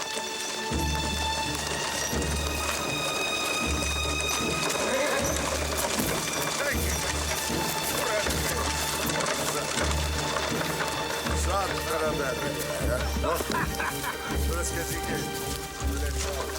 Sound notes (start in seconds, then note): 1.3 ominous music; 7.0 men chattering